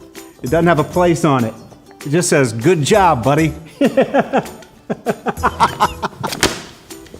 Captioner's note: laughing